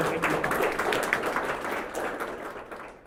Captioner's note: applause